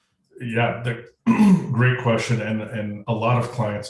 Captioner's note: cough